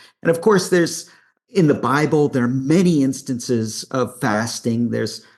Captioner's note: none